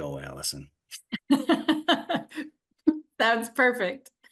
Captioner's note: laughing